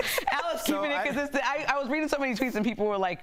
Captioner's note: laughter